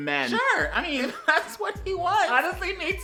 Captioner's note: laughter